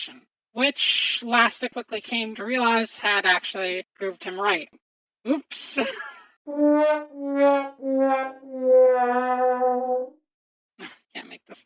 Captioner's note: sad trombone